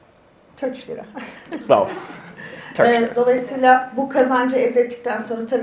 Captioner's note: speaks in Turkish